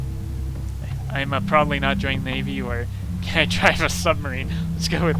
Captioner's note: laughing